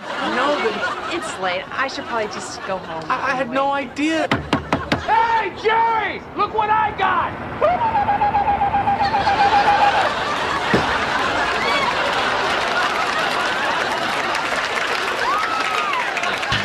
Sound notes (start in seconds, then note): 4.1 knock, knock, knock; 12.8 laughter